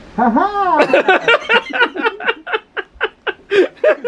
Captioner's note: laughing